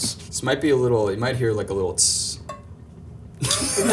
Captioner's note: imitates sizzling; and film crew laughing